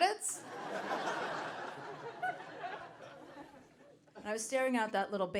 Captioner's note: audience laughing